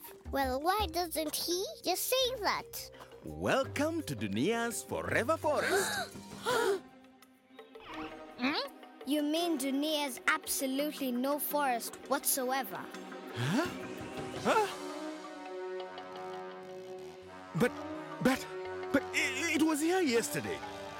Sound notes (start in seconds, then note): 6.4 children gasping; 16.3 chainsaw buzzing